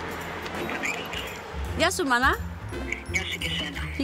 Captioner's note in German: Sie sprechen auf Griechisch